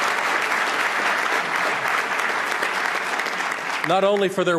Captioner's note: applause